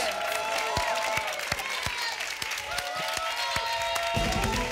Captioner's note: applause and cheering